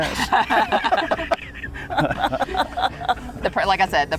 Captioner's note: everyone laughing